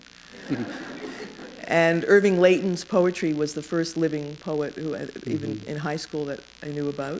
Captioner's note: laughter